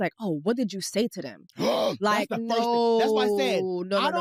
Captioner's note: gasps